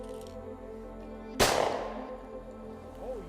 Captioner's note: sound of gun firing